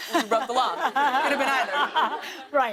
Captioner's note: laughter